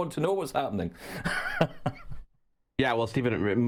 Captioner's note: laughing